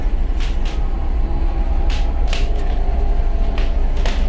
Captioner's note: floor creaking